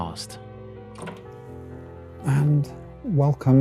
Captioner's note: door opens